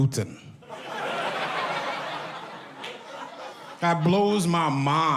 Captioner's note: audience laughs